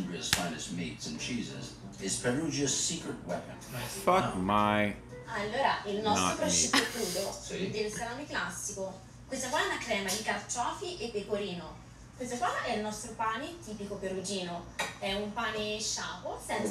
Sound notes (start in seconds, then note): 5.5 speaking Italian